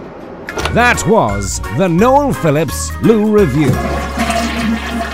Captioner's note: voiceover